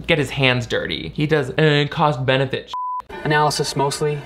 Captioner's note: beep